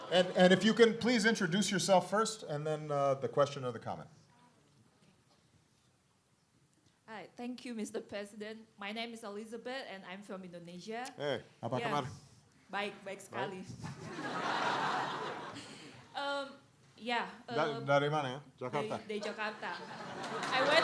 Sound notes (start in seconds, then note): 11.7 speaking indonesian; 18.0 speaking indonesian